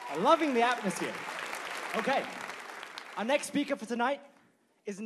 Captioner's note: applause